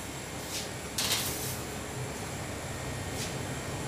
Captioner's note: whirring of the refrigerators